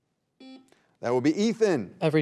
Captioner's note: buzzer beeping